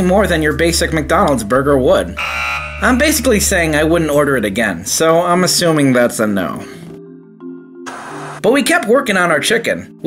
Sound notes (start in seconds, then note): 2.2 buzzer; 7.8 TV static